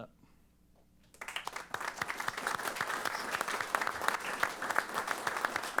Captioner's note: applause